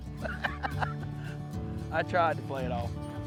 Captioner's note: laughs